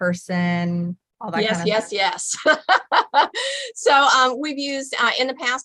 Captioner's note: laughing